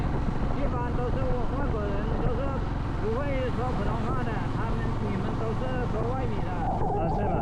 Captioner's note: Mandarin